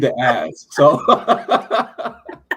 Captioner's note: laughter